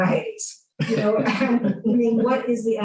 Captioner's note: laughter